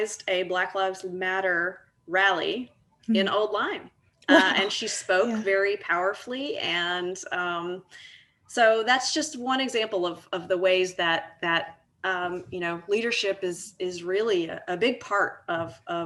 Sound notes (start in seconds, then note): 4.6 laughs